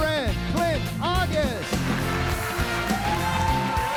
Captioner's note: audience applauds and cheers; upbeat music